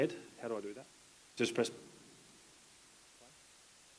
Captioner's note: speaks faintly